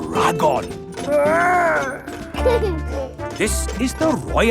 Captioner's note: giggles